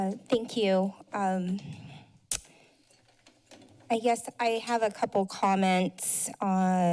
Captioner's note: smacks lips